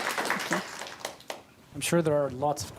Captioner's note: applause